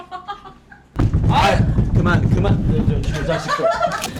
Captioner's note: banging